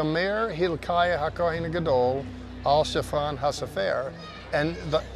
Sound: speaking in Hebrew

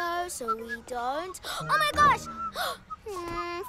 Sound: gasps

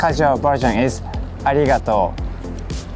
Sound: speaking in Japanese

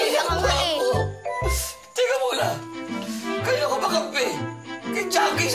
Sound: sniffles

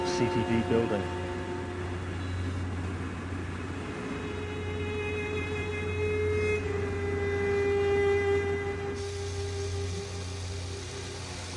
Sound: indistinct sounds of machinery and people

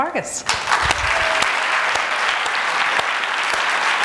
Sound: audience applauding

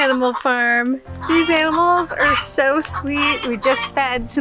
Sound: birds squawking

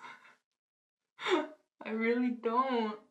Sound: she giggles; she laughs

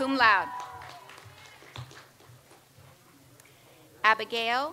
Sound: audience applauds

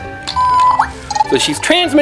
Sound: beeping

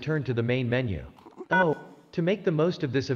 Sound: key tone

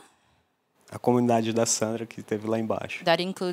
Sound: non-english speech

